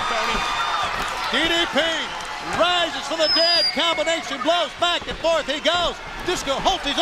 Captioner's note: crowd chatter